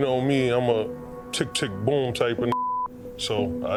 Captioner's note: beep